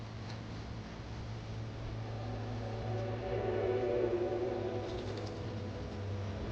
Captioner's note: birds chirping; dramatic music